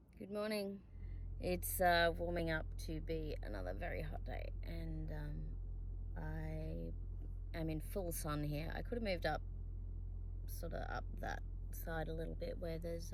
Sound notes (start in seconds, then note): none